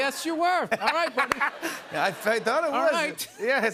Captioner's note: laughter